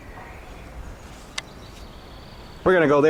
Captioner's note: click